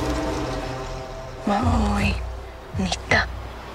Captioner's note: dramatic music; speaking comanche